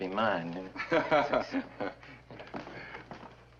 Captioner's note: chuckles